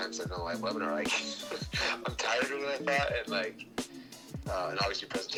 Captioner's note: laughs